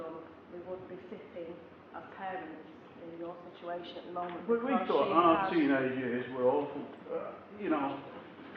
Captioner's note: man interjecting